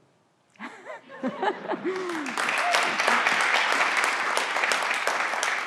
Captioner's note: everyone laughs and claps